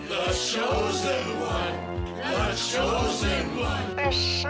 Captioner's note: chanting